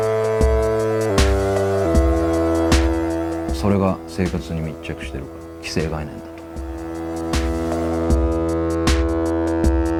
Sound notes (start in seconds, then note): 3.6 speaking in foreign language; 7.4 upbeat music